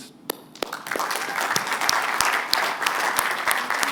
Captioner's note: applause